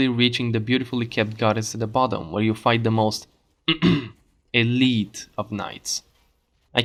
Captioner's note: cough